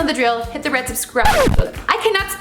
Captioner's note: scratch